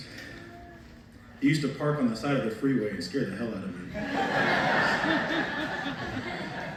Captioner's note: laughter